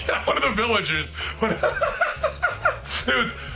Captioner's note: laughs